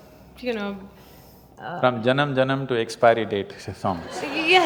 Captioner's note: laughter